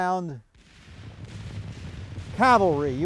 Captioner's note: guns blasting